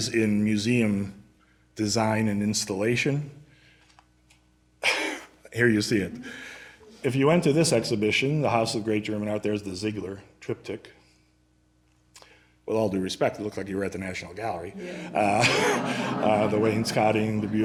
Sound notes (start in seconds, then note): 14.6 laughter